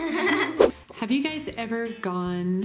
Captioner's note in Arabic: سووش